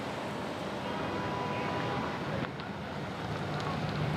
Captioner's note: horns honking